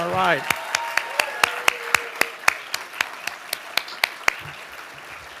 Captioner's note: audience applauding